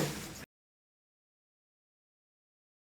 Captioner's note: crew murmuring